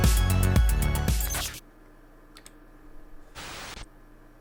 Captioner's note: static crackling